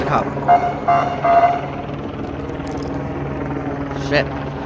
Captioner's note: siren honking